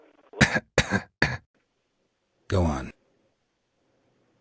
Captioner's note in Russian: Кашель